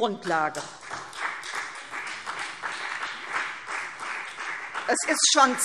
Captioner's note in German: Beifall CDU und BÜNDNIS 90/DIE GRÜNEN